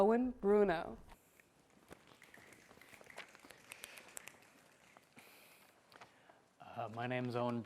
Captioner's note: applause